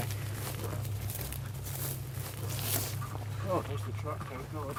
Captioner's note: grass crunching